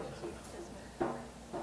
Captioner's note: audience and speaker laugh